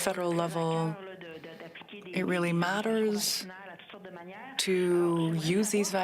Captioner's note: speaking French